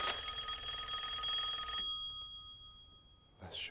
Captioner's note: rings